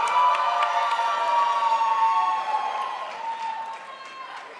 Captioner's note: crowd applauds